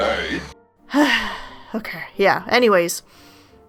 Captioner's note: big sigh